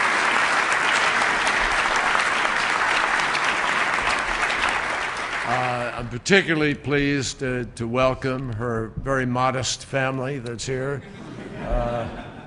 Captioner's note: applause; laughter